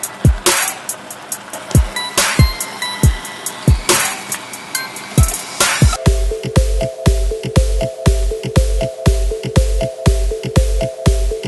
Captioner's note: make vinaigrette soy sauce, boiling sound in the background